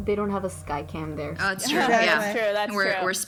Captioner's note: laughs